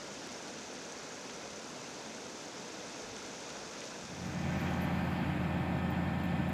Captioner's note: water flowing